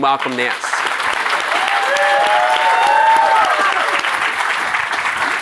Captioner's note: audience applauding